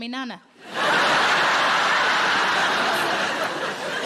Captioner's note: audience laughing